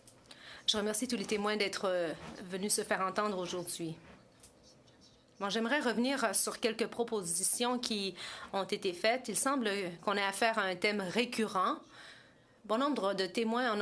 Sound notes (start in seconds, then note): 2.8 speaking French